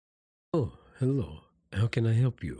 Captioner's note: speaking with Accent or Altered Voice